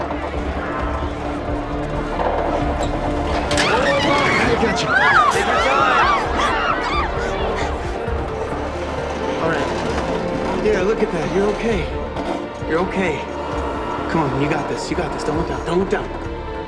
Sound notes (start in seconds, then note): 0.3 metal clattering; 3.5 screaming; 6.8 people screaming